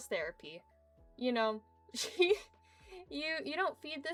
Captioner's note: giggles